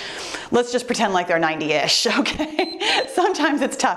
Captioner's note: timer beeps